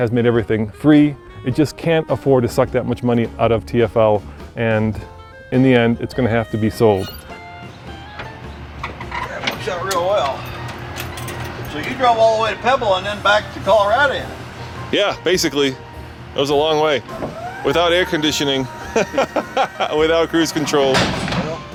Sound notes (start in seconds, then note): 19.0 laughing